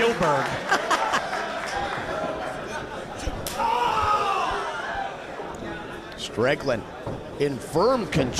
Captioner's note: laugh